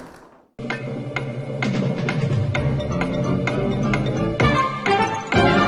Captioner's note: stop clock ticking